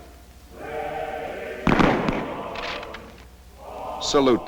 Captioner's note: gunfire